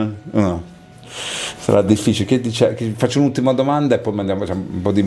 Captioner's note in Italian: sbuffare